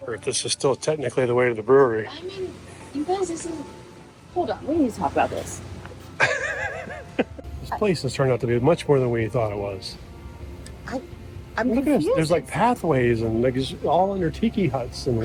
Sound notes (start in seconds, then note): 6.2 laughing